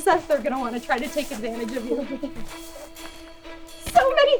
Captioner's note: chuckles